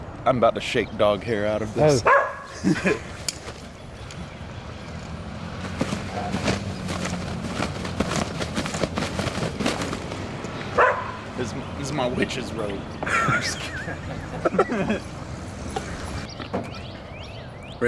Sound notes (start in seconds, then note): 2.0 dog barking; 5.4 blanket flapping; 13.0 both laughing